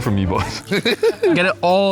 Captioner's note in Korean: 웃음